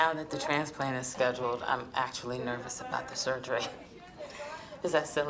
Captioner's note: chuckles